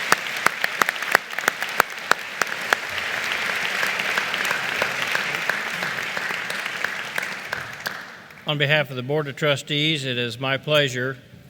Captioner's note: applause